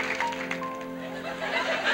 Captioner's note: audience laughs